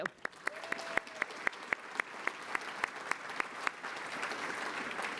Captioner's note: applause